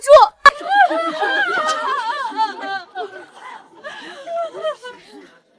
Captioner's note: screaming